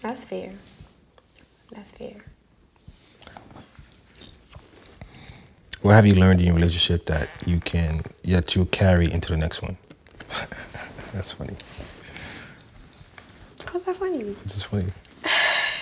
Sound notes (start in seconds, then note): 10.3 laughs